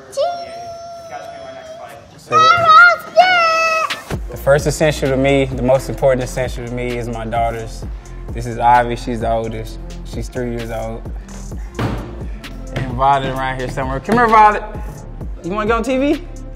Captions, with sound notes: - Cheese! Errol Spence! - The first essential to me, the most important essential to me is my daughters. This is Ivy, she's the oldest. She's three years old. [banging] And wandering around here somewhere-- C'mere, Violet! You wanna get on TV?